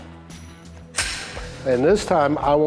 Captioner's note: gun slides